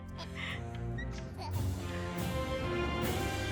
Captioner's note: Mikey giggles